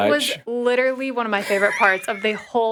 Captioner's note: chuckles; chuckling